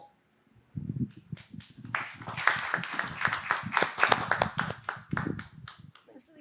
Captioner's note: applause